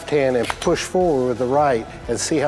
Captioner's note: gun cocks